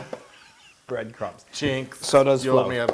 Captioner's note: laugh